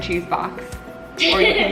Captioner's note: laughs